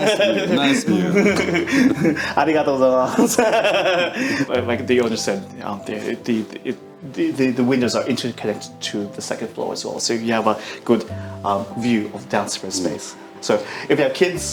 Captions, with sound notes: - Nice to meet you. - Nice to meet you. (speaking foreign language) - Like the owner said, the windows are inter-connected to the second floor as well. So you have a good view of downstairs shared space. So if you have kids,